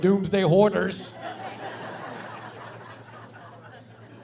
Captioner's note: laughing